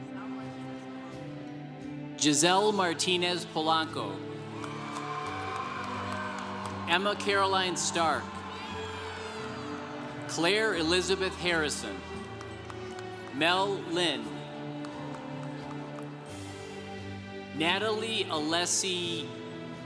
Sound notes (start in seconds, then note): 4.9 congregation cheering; 8.6 congregation cheering; 12.5 congregation applauding; 14.7 congregation applauding